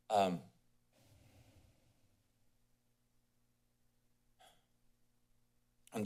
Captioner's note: silence